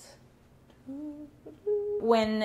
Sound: humming

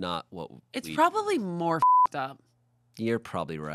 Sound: beep

